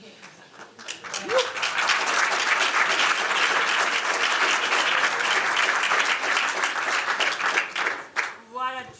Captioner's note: applause